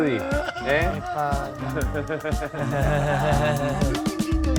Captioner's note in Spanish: Risas